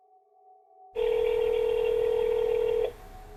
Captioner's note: phone ringing